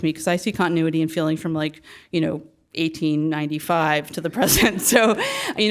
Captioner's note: laugh